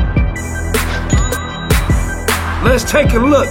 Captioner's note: cash register chime